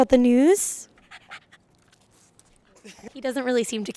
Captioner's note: uninterested sniffing